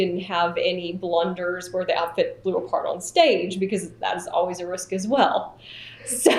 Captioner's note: laughter